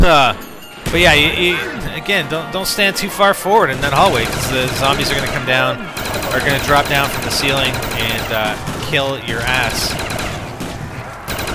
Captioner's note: laughs